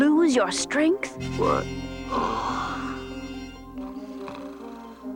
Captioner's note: snores soundly